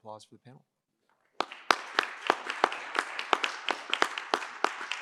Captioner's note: applause